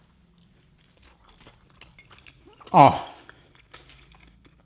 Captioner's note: chewing